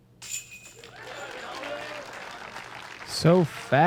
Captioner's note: applause